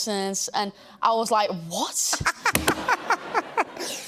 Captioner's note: laughs